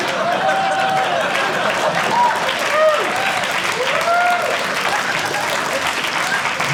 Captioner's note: audience laughing; audience applauding